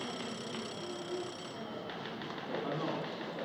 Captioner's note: phone Ringing